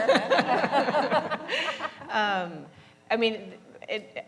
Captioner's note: laughter